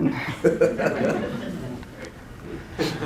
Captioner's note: laughter